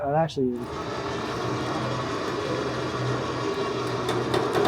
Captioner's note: machine whirring